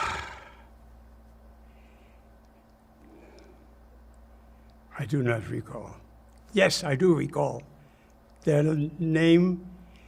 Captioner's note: sighing